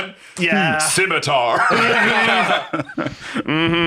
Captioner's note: laughs